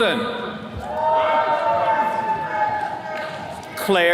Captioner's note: attendees cheering